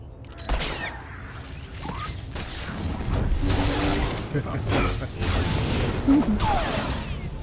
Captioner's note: laughter